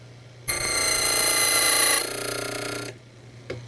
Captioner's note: drilling sound